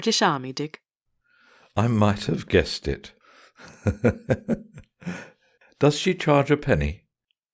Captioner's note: chuckling